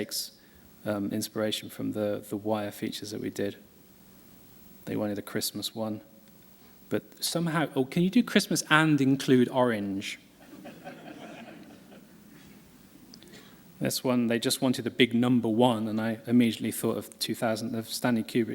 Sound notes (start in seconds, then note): 10.4 laughter